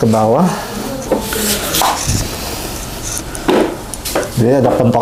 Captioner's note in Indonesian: suara vakum